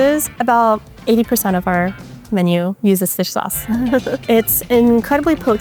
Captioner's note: chuckles